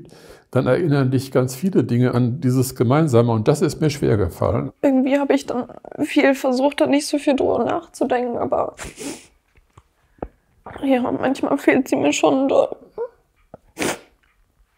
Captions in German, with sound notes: dann erinnern dich ganz viele Dinge an dieses Gemeinsame, und das ist mir schwergefallen. Irgendwie habe ich dann viel versucht, da nicht so viel drüber nachzudenken, aber manchmal fehlt sie mir schon doll. (Sie schnieft.)